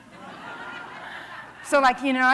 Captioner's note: laughter